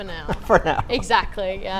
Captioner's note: laughs